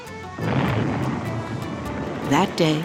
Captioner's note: explosion rumbling